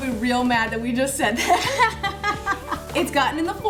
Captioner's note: laughing